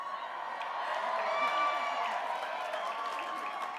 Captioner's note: applause